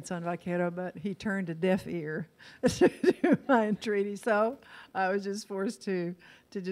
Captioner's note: laughs